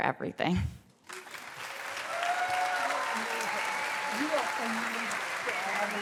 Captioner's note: cheers, applause